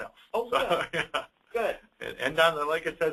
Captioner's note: laughs